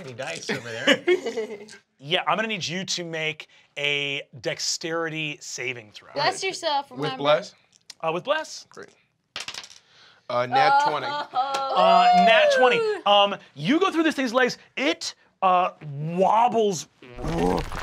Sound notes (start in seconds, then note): 0.4 chuckling